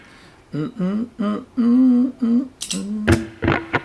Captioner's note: humming